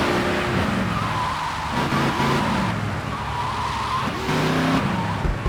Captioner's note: tires screeching